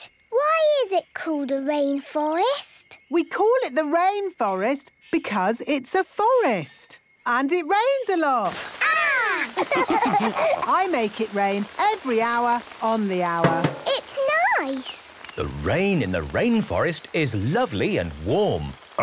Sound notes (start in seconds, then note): 9.4 all laughing; 13.4 taps